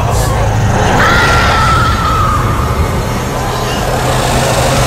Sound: screaming

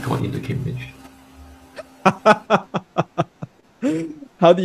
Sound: laughter

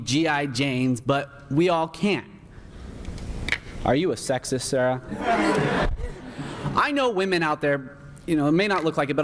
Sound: laughter

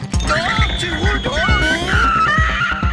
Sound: screaming

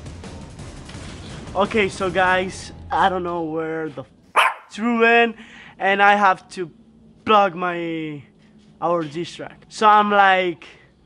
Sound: bark

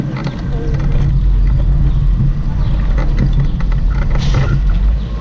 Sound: engine humming

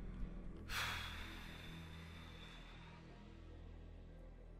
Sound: exhales heavily

